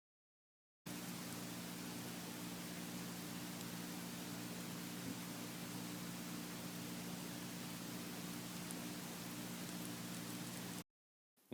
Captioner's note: low pitch clicking